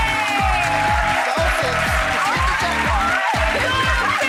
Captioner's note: crowd cheers; upbeat music